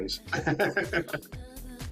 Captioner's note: laughs